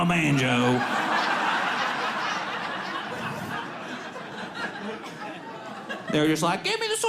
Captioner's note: audience laughing